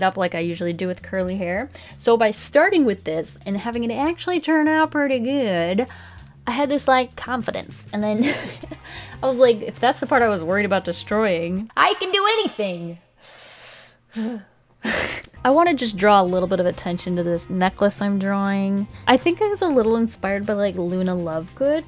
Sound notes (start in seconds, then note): 8.2 laughs; 13.3 deep inhale, sigh, laughs